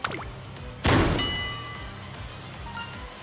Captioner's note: thwack*!!!